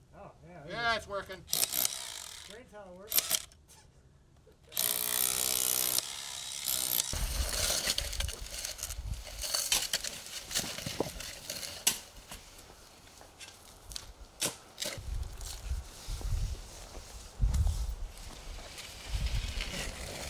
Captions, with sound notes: - Oh, yeah. - Yeah, it's working. - Green towel works. (machine drilling) (tube clattering)